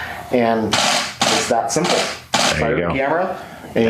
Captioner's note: mechanical shutter